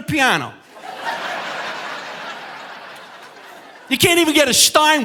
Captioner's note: audience laughing